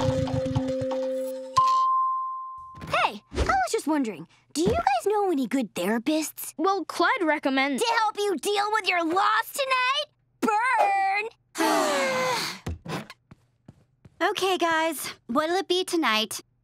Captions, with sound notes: Hey, I was just wondering, do you know any good therapists? Well Clyde recommended-- -To help you deal with your loss tonight? Burn! [collective sigh] Okay, guys. What'll it be tonight?